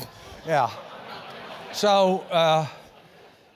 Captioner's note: laugh